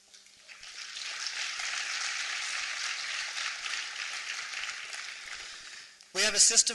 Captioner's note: applause